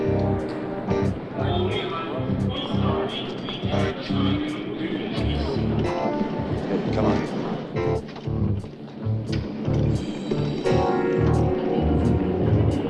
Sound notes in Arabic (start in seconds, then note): 2.2 مذيع يتحدث بلغة أجنبية; 9.0 موسيقى مشوقة